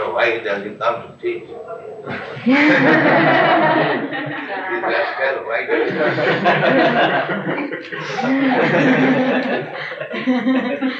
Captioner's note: laughter